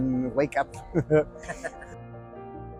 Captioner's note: laughter